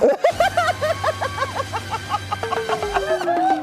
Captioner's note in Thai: เสียงหัวเราะ